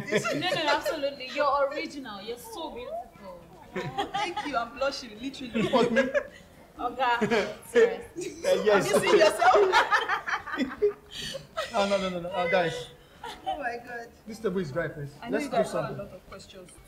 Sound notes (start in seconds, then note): 8.2 laughter